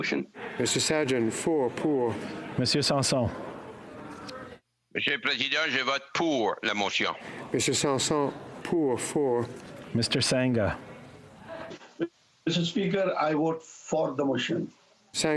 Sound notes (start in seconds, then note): 7.1 speaking French